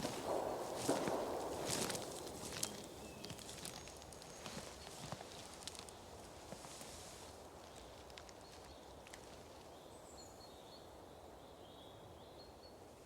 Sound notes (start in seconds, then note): 0.0 distant gunshots; 6.1 birds chirping